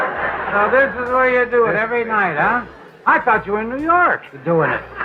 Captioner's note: audience laughter